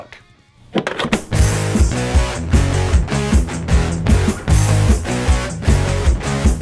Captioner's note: tape clicking; metal music